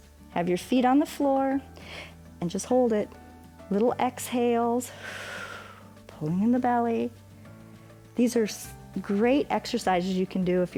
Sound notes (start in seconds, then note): 4.8 exhales